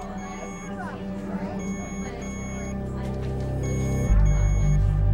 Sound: monitor beeping

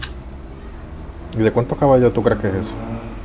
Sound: motor

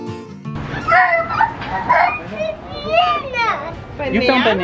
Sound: squeals

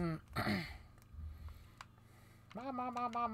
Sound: clears throat; sigh

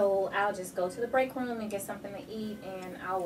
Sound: none

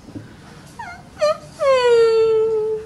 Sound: whimpering

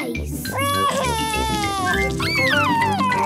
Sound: crying

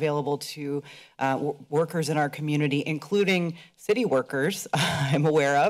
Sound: chuckles

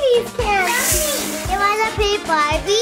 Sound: imitates snake hissing

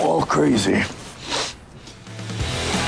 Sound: sniffs

